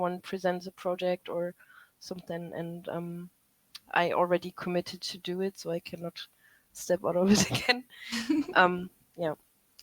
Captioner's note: laughter